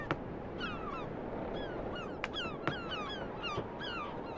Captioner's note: seagull cries